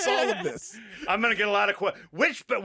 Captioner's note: laughing